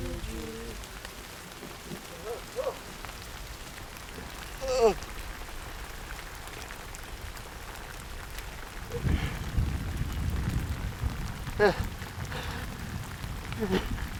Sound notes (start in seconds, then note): 2.6 man groaning